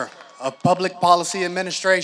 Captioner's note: applause